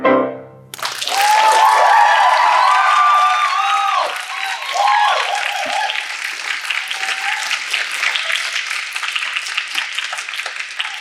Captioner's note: applause